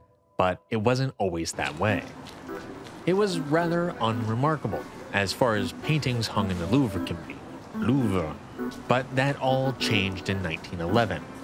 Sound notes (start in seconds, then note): 1.5 footsteps and a courtyard; 7.4 strained